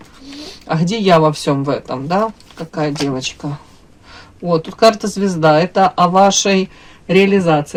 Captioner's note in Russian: фыркает